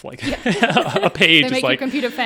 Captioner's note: all laughing